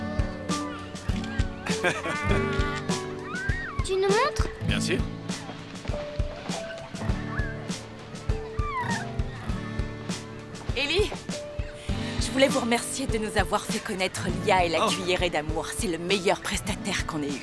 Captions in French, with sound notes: (rires) - Pouvons-nous voir ? - Oui, bien sûr ! - Eli ! Je tenais à vous remercier pour nous avoir mis en contact avec Lia et The Loving Spoonful. Nous n'avons jamais eu de meilleur vendeur de nourriture.